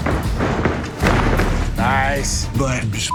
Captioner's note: bodies thud to the canvas